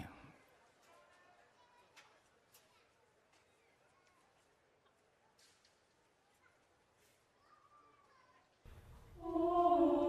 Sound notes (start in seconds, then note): 1.1 ambience